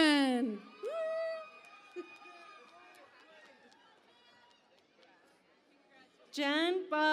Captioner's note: cheering and Applause